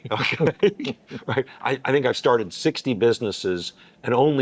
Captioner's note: laughing